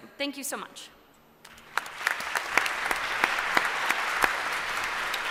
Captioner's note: applause